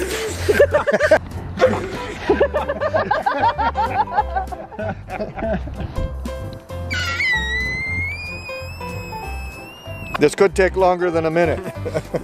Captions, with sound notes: [laughter] [balloon squeeks] This could take longer than a minute.